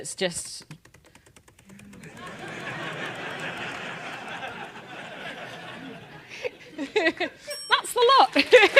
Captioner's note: laugh; applause